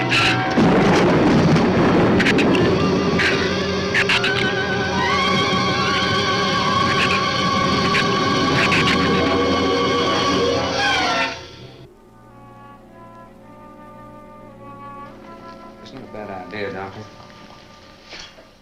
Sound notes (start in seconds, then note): 0.0 shrew snarls; 0.3 thunder claps; 6.8 shrew chatters; 11.8 bleak orchestral music